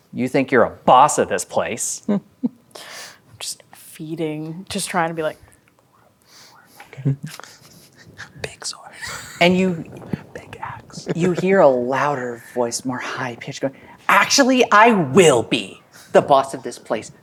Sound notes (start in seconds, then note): 8.0 whispers